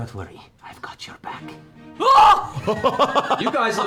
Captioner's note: yelps; laughter